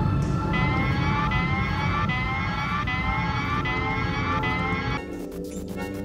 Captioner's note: alarm; alert signal